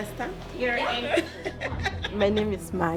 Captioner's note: laughing